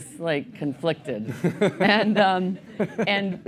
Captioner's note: laughter